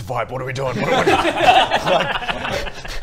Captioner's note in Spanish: risas